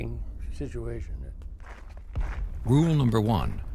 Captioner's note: footsteps crunching